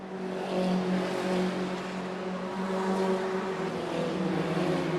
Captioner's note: car engine roaring